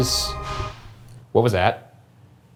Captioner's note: crashing